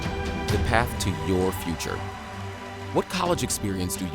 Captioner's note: audience applauding